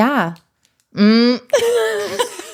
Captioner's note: laughing